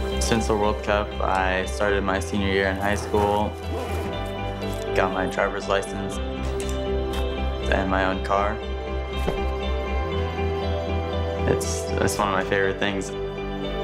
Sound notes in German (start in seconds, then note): 2.6 Geräusch des Reißverschlusses; 9.2 Tür wird geschlossen